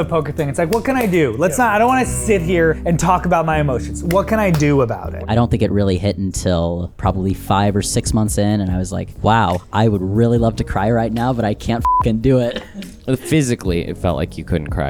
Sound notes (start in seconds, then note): 3.8 hands clapping; 12.2 chuckling